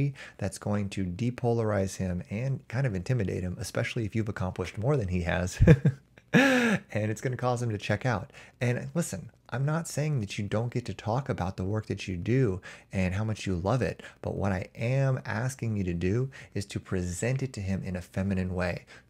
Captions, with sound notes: that's going to depolarize him and intimidate him, especially if you've accomplished more than he has. [chuckles] It's going to cause him to check out. Listen, I'm not saying that you don't get to talk about the work that you do and how much you love it. What I am asking you to do is to present it to him in a feminine way.